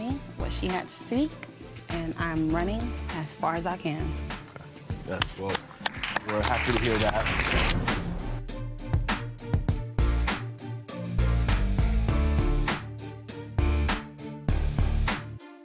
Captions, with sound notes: But today Judge Lynn told me what she had to see. And I'm running as far as I can. (audience applause) - Well we're happy to hear that. (intense music)